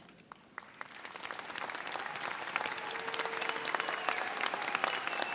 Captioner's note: audience applauding and cheering